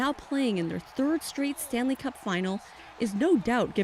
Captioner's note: cheers and Applause